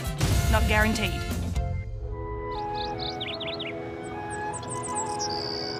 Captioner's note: birds chirp